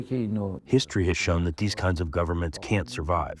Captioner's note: through translator